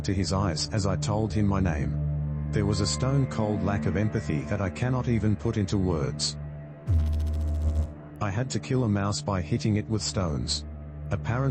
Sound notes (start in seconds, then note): 6.8 electrical noise